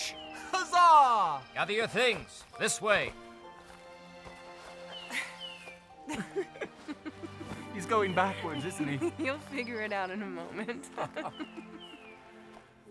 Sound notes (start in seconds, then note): 5.9 chuckling